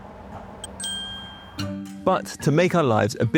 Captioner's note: bell chimes